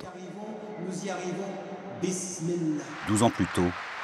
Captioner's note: applause